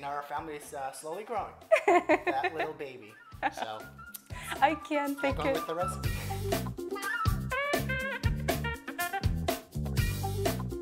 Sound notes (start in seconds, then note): 1.7 laughs; 6.0 cheerful music